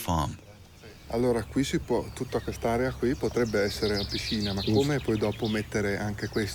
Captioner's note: speaks in foreign language